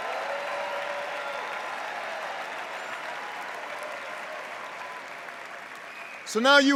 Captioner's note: cheers and applause